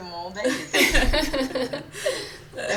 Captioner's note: laughs